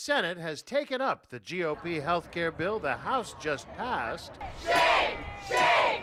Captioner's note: chanting "aca is the way"